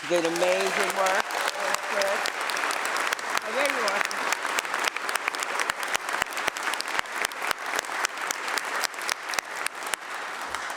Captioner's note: applause